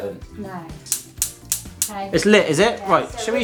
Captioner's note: oven ignition clicking